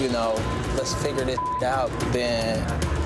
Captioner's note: beep